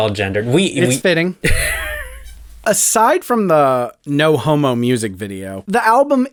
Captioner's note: laugh